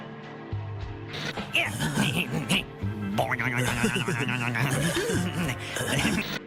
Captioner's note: chuckles